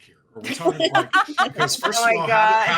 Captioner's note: laughing